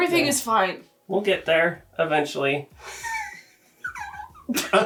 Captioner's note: laughs